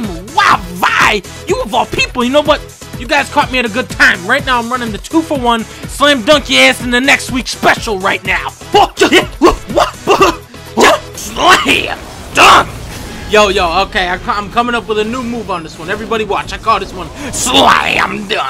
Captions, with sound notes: Wow, Vi?! You of all people! You know what? You guys caught me at a good time Right now I'm running the 2 for 1 Slam-dunk-yo-ass-into-next-week special right now! *Focused grunts and whoops* SLAM! DUNK! Yo yo, OK I'm co- I'm coming up with a new move on this one, Everybody watch, I call this one: SLAM DUNK!